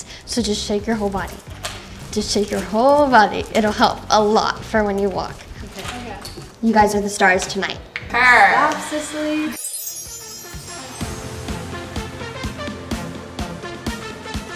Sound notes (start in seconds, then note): 9.2 bells chiming; 11.7 upbeat music